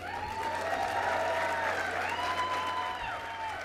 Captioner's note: crowd cheers